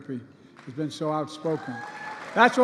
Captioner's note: applause